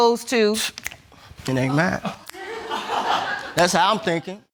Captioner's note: audience laughs